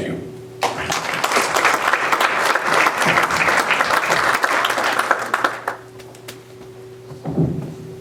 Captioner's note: applause